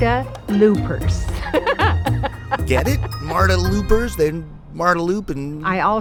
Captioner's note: laughs